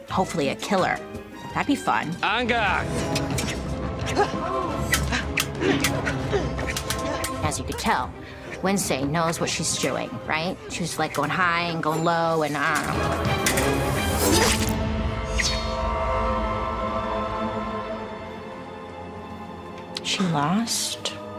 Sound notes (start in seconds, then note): 4.0 students grunting; 4.6 swords swiping and whipping